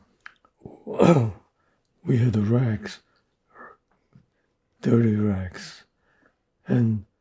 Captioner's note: clears throat